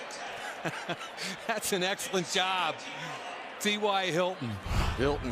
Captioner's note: laughs